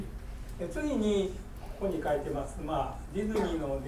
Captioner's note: speaking in foreign language; coughing